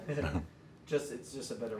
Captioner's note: giggling